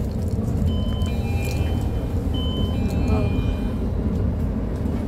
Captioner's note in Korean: 하차벨 소리